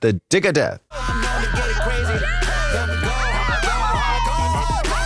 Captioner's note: players screaming